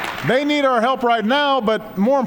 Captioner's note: applause